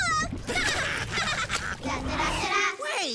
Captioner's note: both laughing